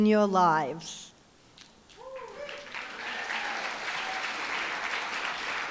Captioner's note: applause, cheering